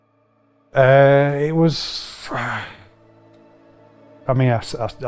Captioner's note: soft music; sighs